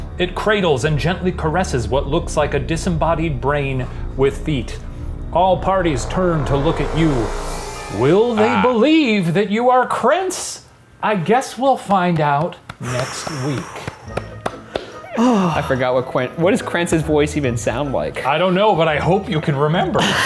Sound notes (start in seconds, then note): 12.1 clapping; 19.9 laughter